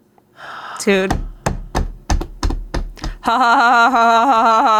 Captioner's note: smacks table